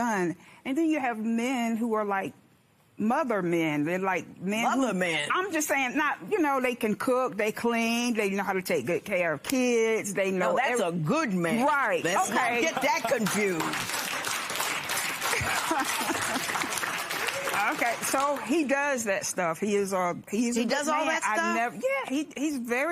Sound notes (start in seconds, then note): 13.0 applause; 15.2 laughs